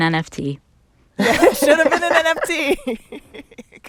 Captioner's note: laughter